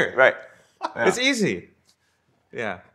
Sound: laughter

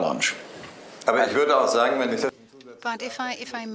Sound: speaking german

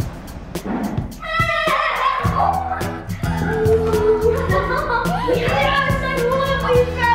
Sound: upbeat music; yelling

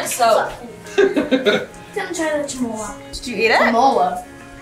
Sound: laughing

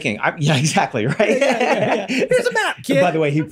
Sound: Glenn laughs

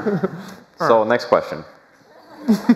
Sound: laughter; laughter

